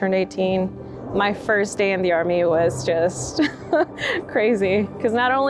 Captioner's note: chuckles